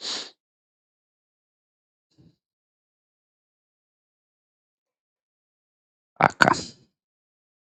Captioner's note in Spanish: resoplido